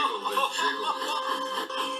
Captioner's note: james giggling